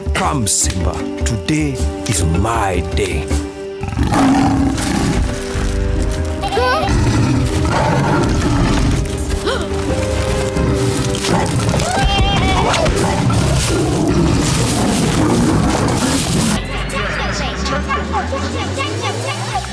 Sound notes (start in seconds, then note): 3.8 growling; 6.2 bleating; 6.2 exclaiming; 6.8 growling; 9.3 gasping; 11.9 bleating; 12.6 growling